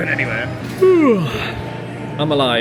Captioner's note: yawns